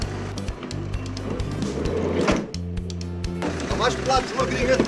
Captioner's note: door slides